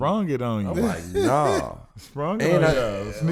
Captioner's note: giggles